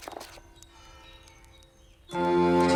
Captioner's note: pages rustling